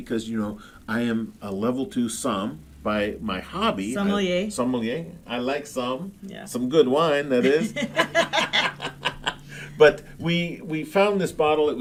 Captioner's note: laughing